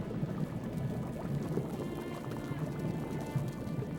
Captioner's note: bubbling cauldron